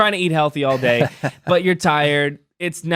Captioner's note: laughing